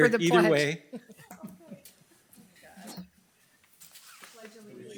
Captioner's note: laughing